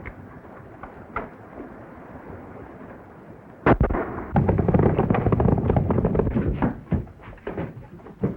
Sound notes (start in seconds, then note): 3.6 gunshot